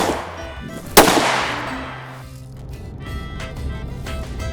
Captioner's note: bat fires